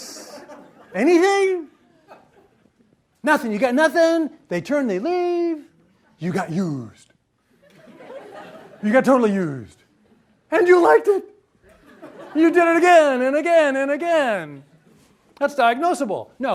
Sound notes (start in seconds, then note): 0.0 laughter; 7.5 laughter